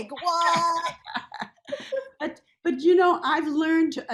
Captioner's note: laughs